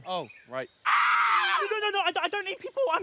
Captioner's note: screams